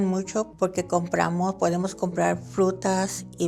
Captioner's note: continues in Spanish